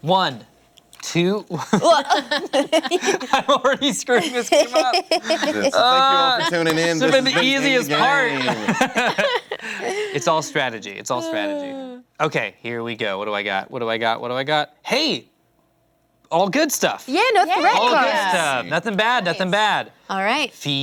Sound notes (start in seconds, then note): 1.6 laughs